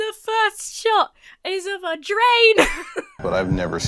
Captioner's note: laughs